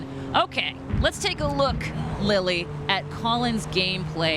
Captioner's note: none